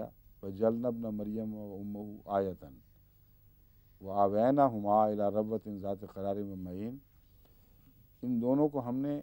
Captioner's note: Arabic